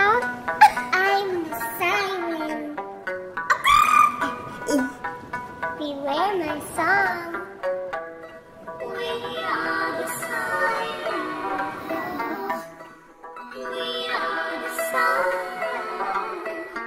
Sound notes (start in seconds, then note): 3.6 bird noise; 9.1 singing